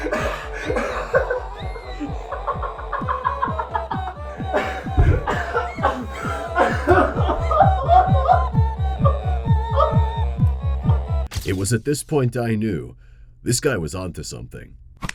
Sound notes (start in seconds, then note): 3.0 insane laughing; 3.0 sounds of your average total mental breakdown